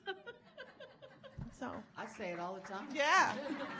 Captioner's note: audience laughing